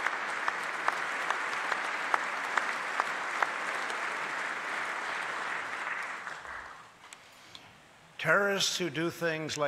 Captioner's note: applause